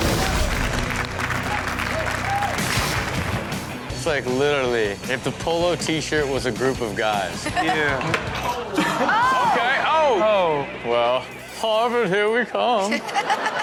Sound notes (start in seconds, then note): 0.0 audience cheers; 0.3 upbeat music; 8.5 Chanel laughs